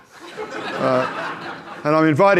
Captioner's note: audience laughs